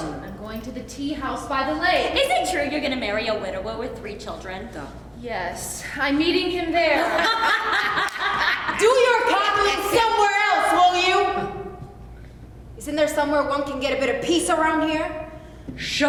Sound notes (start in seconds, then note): 6.9 prostitutes laughing